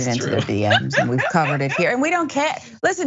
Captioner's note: laugh